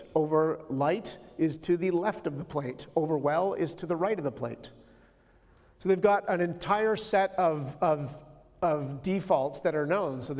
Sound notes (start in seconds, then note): none